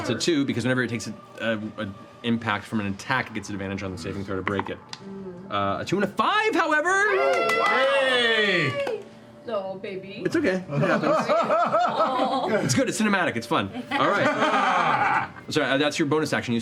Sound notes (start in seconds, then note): 7.0 cheering